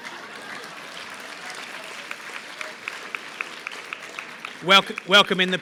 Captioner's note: laughter; applause